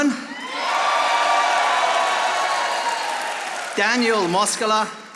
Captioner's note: audience applauding